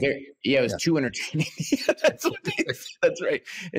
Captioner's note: laughing